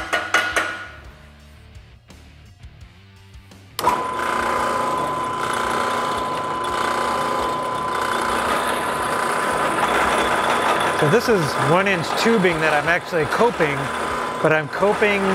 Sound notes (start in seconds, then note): 0.0 metal clinking; 4.2 machine whirring